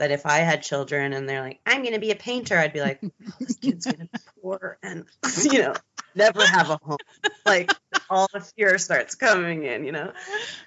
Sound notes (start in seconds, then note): 5.2 both laughing